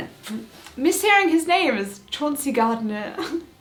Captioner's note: laughing